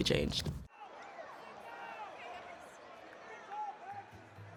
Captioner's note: crowd chatters